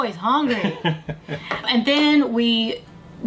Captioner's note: laughs